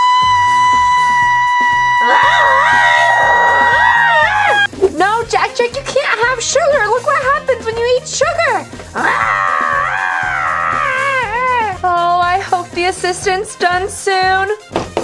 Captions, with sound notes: (Vampirina screams) (Jack-Jack screams) No, Jack-Jack, you can't have sugar. Look what happens when you eat sugar. (Jack-Jack screams) Oh, I hope the Assistant's done soon.